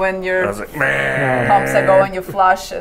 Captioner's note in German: stöhnt